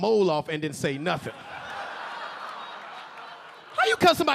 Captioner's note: audience laughing